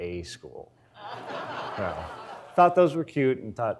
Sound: audience laughs

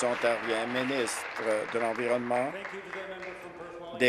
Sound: applause

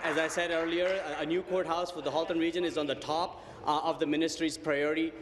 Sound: applause

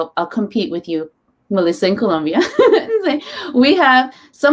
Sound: laughs

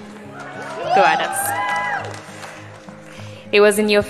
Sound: cheering

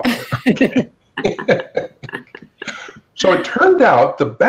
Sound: all laughing

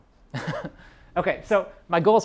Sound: chuckle

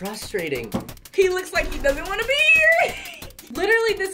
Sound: laughs

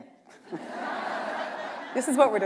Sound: laughter

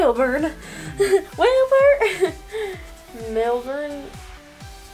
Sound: giggles

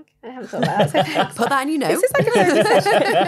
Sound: all laughing

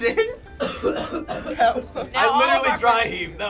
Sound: coughing

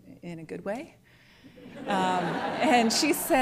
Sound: laughter

